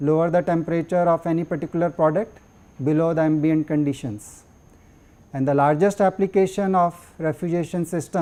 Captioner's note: air conditioning